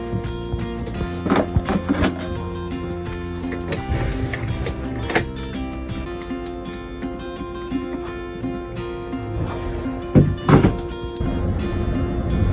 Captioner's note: sounds of equipment being fastened